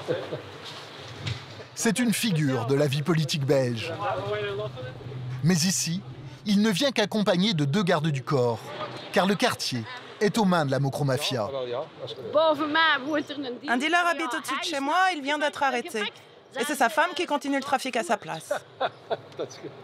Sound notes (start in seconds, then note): 11.6 Dutch spoken audio